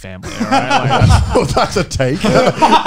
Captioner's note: laughing